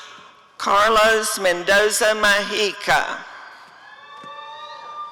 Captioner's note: audience cheering